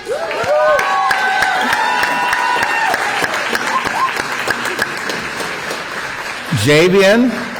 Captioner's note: applause